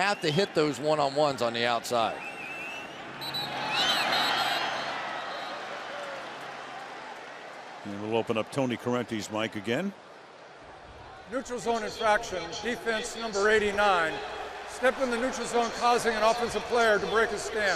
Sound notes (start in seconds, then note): 4.1 whistle